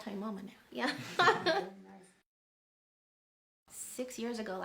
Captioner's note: laughs